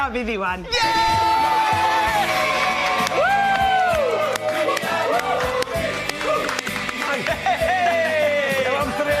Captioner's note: cheering